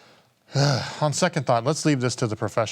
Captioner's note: sighing